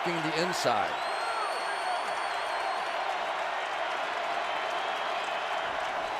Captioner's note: cheering